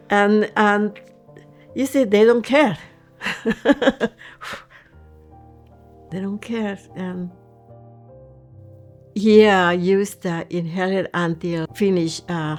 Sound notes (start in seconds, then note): 3.2 laughing